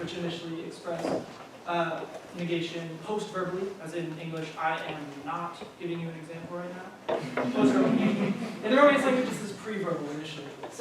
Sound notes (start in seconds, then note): 7.4 laughter